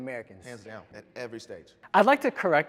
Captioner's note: murmuring